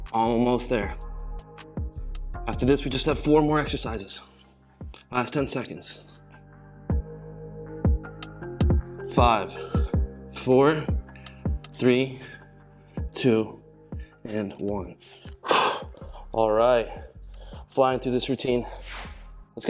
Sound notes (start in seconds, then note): 15.4 exhales